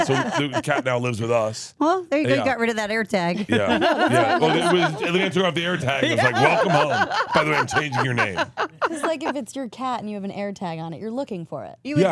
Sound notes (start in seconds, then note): 7.1 laughs